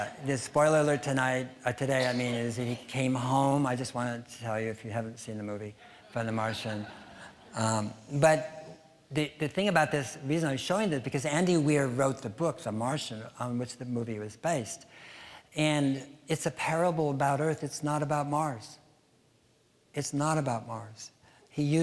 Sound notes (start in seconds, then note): 0.0 audience laughing; 6.0 audience chuckling